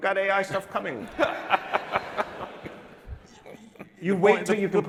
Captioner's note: laughing